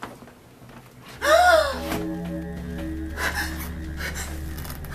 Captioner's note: Kate gasping